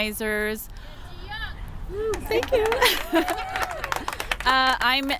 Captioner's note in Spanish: Aplausos